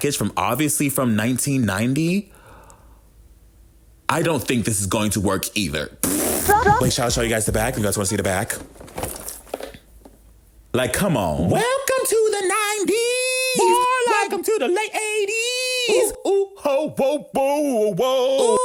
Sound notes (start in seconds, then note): 6.0 blows raspberry